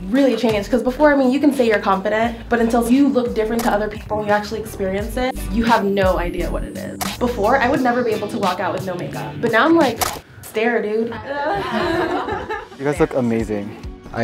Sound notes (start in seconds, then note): 11.2 laughter